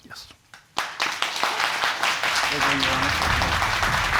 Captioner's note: audience applauding